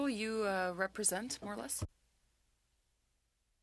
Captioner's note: speaking French